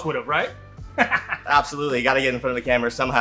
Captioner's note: laughs